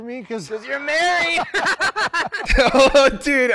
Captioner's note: laughing together